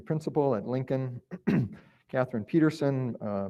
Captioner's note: clears throat